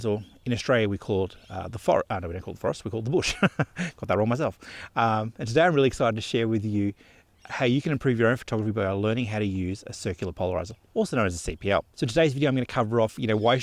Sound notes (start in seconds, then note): 3.2 laughs